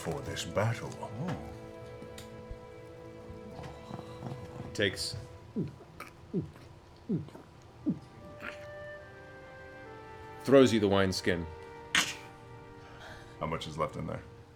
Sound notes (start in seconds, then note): 3.3 glugging